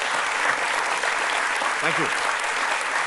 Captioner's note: applause